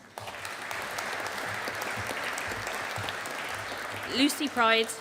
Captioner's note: audience applauding